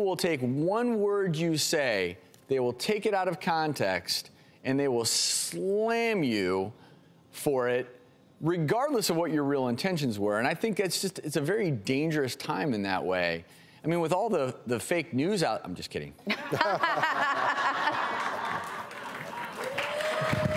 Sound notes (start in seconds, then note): 16.4 laughing